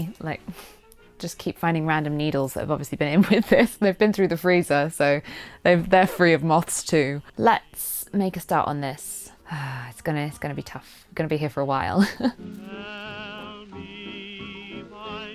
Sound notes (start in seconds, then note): 9.4 sighs; 15.1 jazz music continues